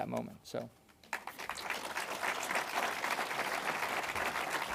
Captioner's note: audience applauds